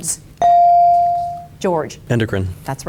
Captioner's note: bell dings